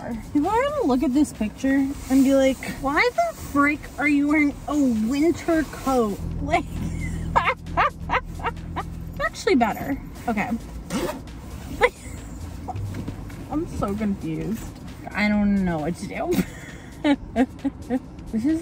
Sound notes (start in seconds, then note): 6.8 laughs; 11.7 laughs; 17.6 laughs